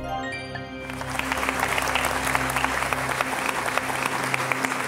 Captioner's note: applause